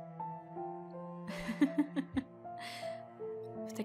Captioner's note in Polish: Lekki śmiech